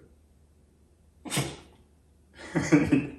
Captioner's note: Oliver sneezes and whines at the same time